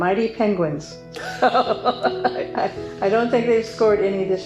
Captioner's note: laughing